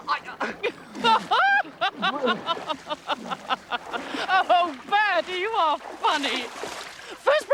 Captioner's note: laughs